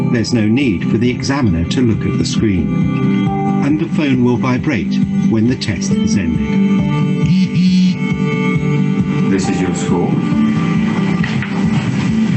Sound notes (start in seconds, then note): 7.2 phone buzzes